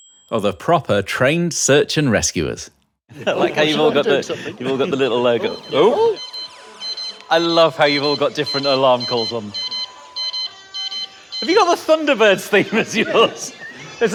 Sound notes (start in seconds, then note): 5.6 multiple siren tones; 11.4 laughs